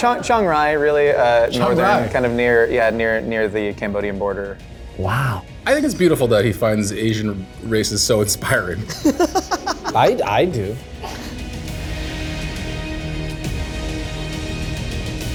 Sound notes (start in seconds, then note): 8.8 laughs; 12.3 suspenseful music